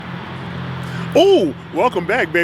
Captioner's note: traffic sounds